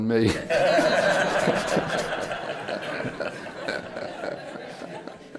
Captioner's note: laughter